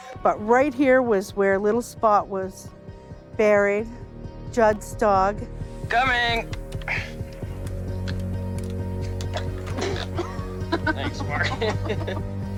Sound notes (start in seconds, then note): 9.0 air poofing; 9.4 grunts; 11.8 laughing